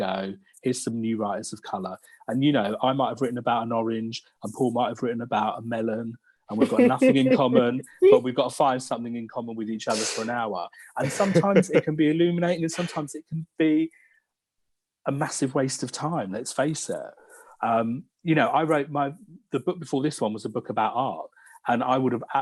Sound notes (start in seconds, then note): 10.8 laughs